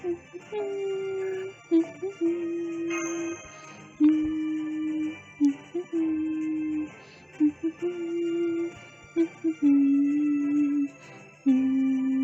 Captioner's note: humming to background music